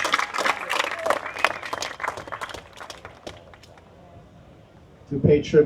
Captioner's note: applause